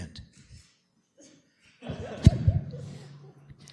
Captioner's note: laughter